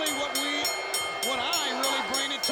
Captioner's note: bell ringing